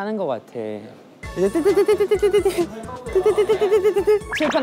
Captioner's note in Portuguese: Beep beep